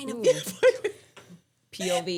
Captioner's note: laughing